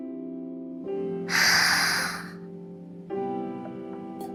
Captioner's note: inhale